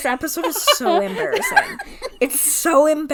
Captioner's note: laughing